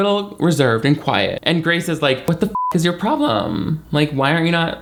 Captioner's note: beep